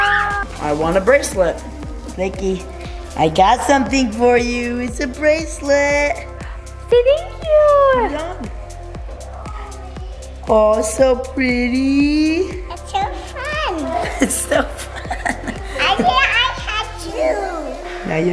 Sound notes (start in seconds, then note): 13.7 laughs